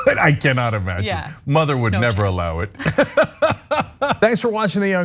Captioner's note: laugh